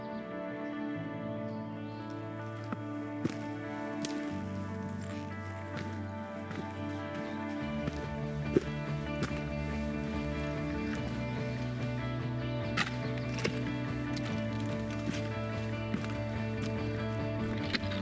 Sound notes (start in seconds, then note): 5.7 birds chirping